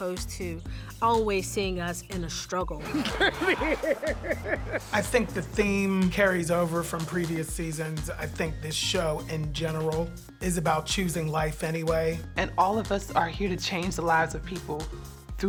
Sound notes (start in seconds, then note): 2.8 laughing